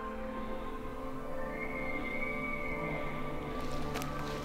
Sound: elk Bugling

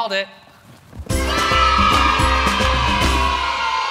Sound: kids cheer

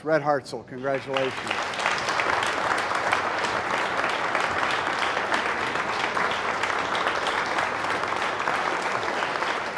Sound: applause

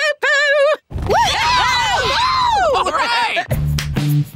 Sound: cheering

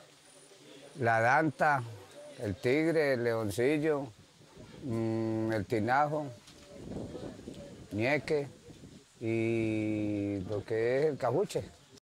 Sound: animals

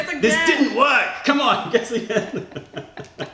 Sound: laughter

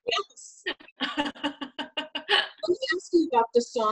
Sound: laughter

